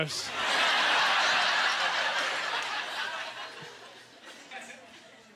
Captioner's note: audience laughter